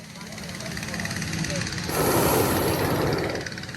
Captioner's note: burner roars